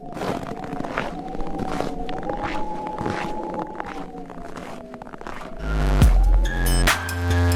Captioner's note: snow crunching; wind whistling